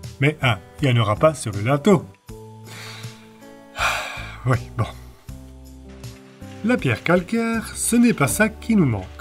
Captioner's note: sigh